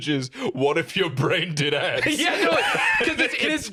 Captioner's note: laughing